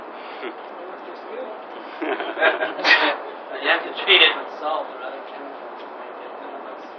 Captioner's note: gülüyorlar